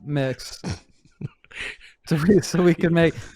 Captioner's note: laughs